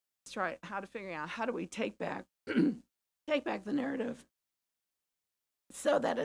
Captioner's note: cough